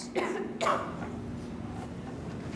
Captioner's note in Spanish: alguien tose